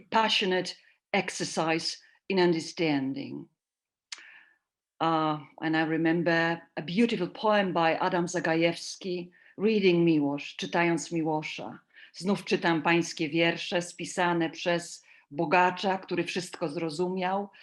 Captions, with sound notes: a passionate exercise in understanding. And I remember a beautiful poem by Adam Zagajewski reading Milosz to dance (speaking I a foreign language)